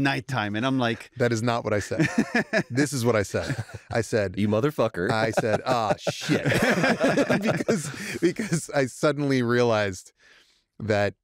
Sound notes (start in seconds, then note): 1.8 laughs; 5.0 laughter